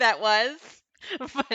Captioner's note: laughing